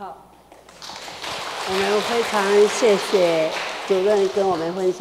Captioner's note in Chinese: 眾人鼓掌